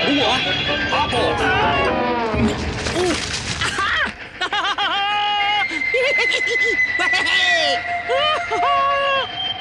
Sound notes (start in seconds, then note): 1.4 Toad screams; 3.6 laughs with delight